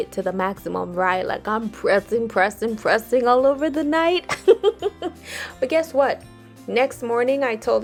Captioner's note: laughs